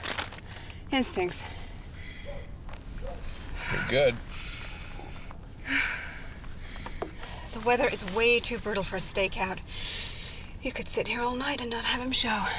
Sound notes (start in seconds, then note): 0.6 sighs; 5.6 sighs